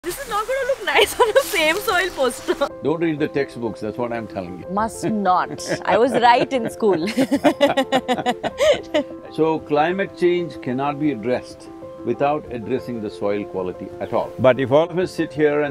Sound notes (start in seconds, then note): 1.0 laughs; 5.1 both laugh